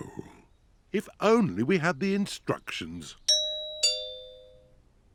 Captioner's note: doorbell rings